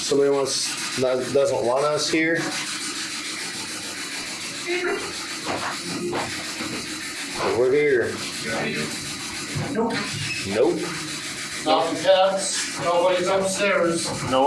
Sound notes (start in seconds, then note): 5.5 footsteps approaching; 9.6 voice on spirit box